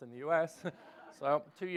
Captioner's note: laughs